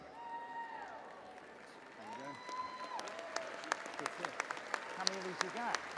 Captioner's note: audience applauding and cheering